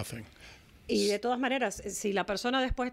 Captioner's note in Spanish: Hablando ingl\s